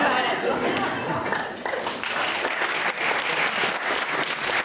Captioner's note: applause